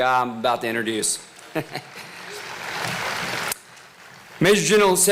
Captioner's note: applause